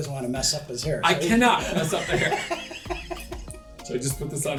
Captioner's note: laughter